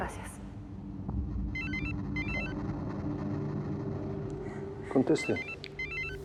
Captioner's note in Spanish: Suena el celular